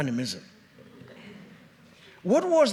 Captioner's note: audience chuckles